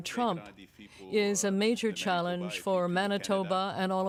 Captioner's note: speaking french